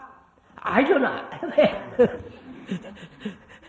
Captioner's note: laughs